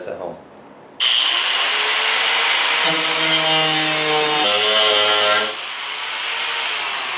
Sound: power tool buzzing

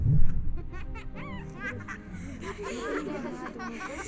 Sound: children’s laughter, talks

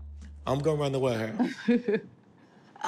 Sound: laughing

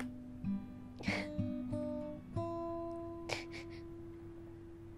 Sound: faint sobbing

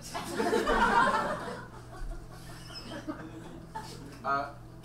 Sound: audience laughs

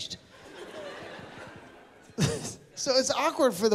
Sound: laughter

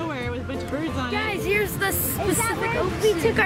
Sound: laughs

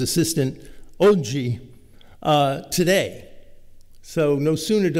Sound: italian

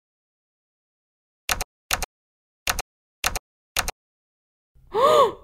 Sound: typing

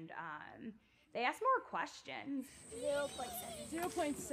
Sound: youth voice

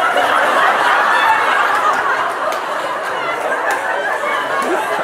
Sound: laughter

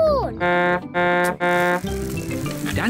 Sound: honks horn

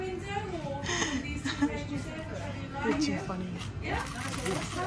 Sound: laughing

